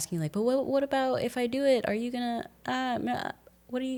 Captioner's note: none